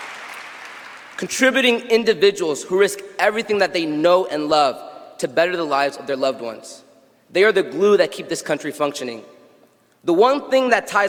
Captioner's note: cheers and applause